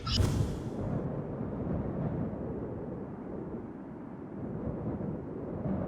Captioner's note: wind blowing